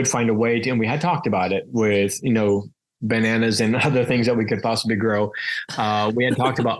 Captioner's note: laughs